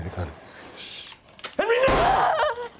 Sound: gunshot; thud

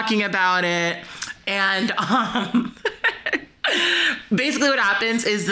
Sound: chuckles

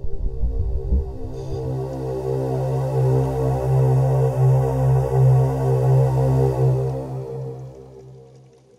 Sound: rising sound

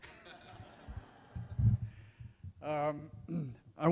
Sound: crowd laughs

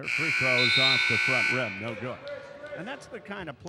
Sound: buzzer dings

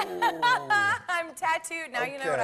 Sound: laughs

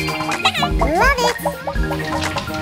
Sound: Gigglebot laughs

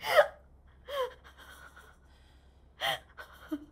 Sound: sobbing

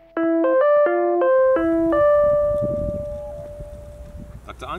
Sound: Zoom ringtone

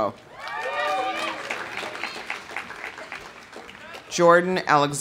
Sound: audience cheering; audience applauding

